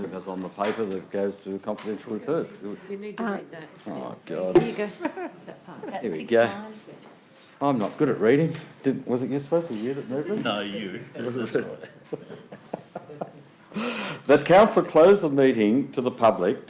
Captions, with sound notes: - As on the paper, that it goes to confidential reports. - You need to read that. - Oh God. - Here you go. - Here we go. I'm not good at reading. Was it you that's supposed to (speaks faintly)? - No, you. - Was it? (laughs) That Council close the meeting to the public